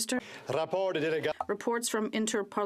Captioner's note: speaking French